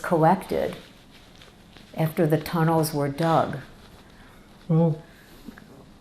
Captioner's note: wiping nose